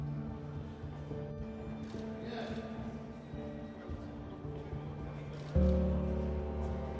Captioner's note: muffled chatter; cameras click